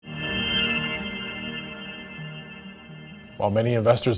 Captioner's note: shimmering